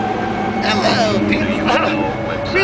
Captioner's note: coughhackwheez